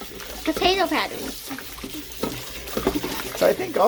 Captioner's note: water sounds and mixing potatoes